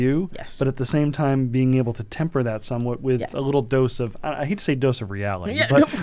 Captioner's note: laughter